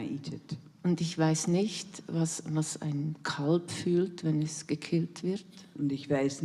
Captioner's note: in German